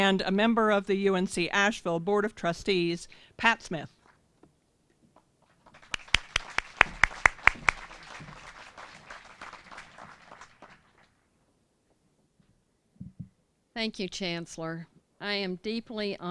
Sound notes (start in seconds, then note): 5.6 applause